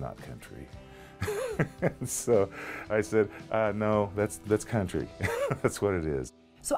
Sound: laughing

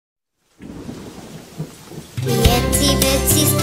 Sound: thunder and rain

